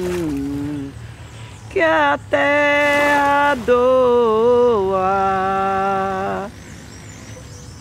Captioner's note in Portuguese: barulho de motor